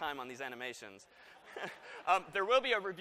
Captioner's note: laughter